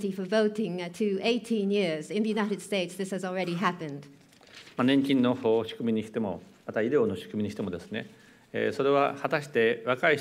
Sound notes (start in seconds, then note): 5.3 speaking japanese